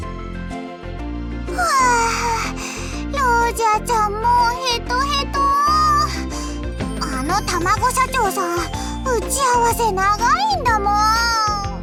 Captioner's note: sigh